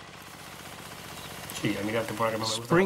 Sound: he speaks Spanish

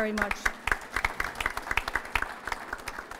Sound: applause

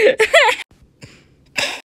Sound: goofy Laughing; chokes and coughs

